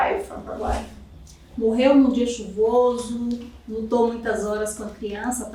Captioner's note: speaking portuguese